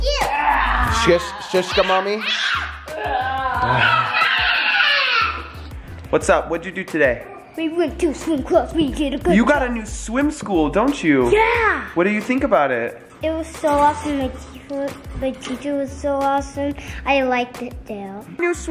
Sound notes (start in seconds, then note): 0.1 groaning